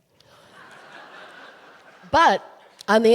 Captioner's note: audience laughing